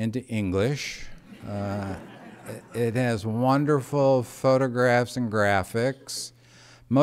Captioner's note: laughter